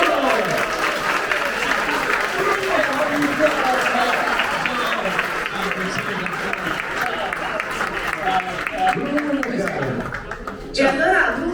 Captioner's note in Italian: applause